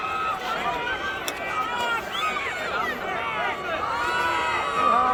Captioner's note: crowd cheering